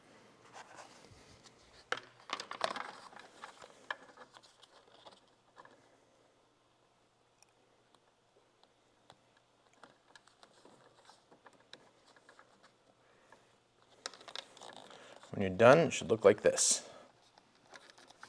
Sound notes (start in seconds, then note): 3.2 silence